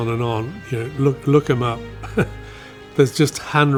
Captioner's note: chuckles